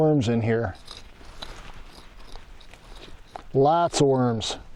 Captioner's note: digging